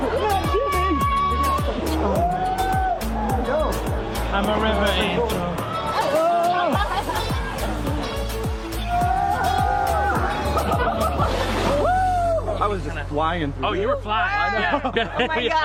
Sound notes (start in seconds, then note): 0.0 cheering and whooping; 8.8 delighted group yelling